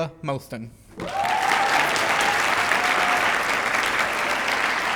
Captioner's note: cheers, applause